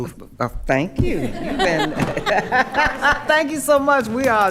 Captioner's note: attendees laughing